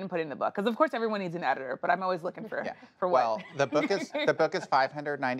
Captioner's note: laughs